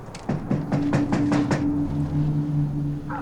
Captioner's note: knocking